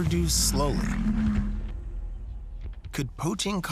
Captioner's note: elephants grunt